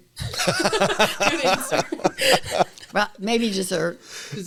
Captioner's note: laughter